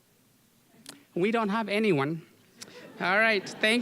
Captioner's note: audience laughing